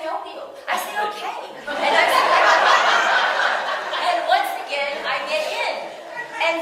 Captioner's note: audience: laughter